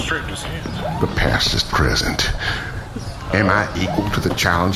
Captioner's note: speaking quietly but intensely